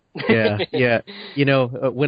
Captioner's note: laughter